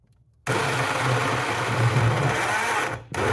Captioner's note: blender